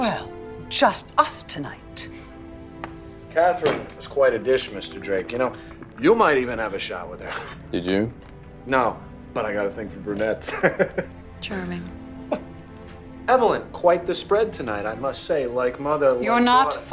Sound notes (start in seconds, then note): 10.1 laughing